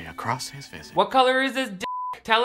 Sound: beep

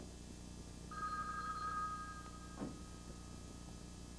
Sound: telephone rings

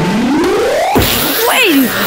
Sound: boom

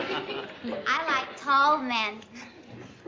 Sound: giggles

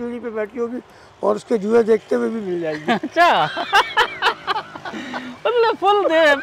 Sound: laugh

